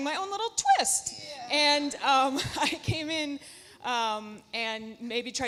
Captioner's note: laughs